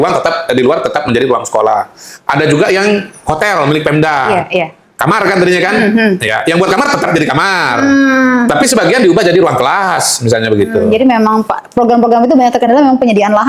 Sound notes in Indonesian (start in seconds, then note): 6.1 berdehem